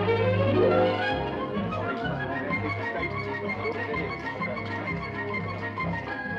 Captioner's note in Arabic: موسيقى أوركسترالية مبهجة; ثرثرة جماعية